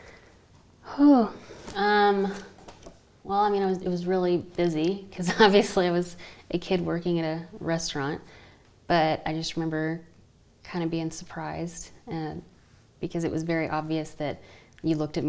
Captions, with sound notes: - (sighs) well, I mean, it was really busy 'cause, obviously, I was a kid working at a restaurant. But I just remember kinda being surprised because it was very obvious that you looked